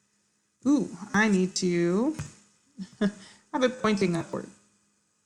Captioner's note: laughs